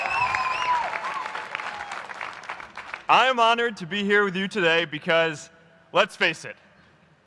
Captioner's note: applause